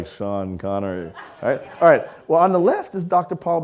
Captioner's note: audience laughing